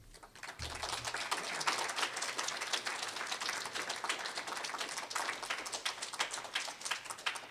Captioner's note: applause